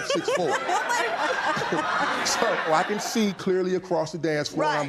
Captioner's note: laughter